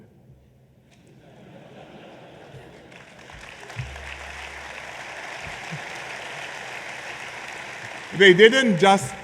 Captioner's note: laughter and applause